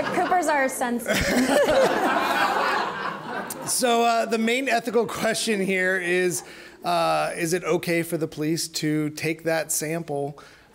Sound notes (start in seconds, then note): 1.5 all laughing